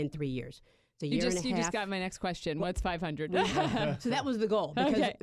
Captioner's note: laughter